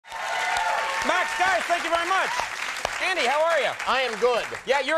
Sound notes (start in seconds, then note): 0.0 applause